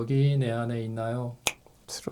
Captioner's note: snap!